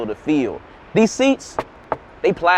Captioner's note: knocks